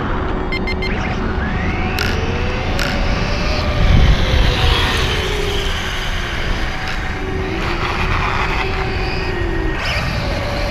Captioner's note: electric motor sounds; electric motor screaming